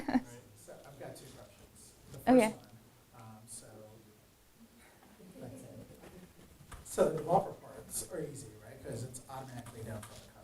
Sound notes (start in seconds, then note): 4.3 man speaking faintly off microphone